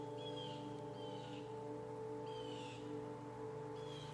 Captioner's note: birds chirping